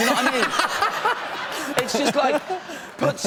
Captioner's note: laughter